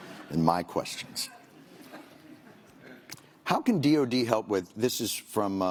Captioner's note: laughter